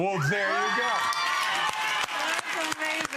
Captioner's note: audience applauds